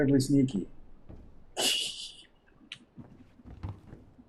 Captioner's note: titters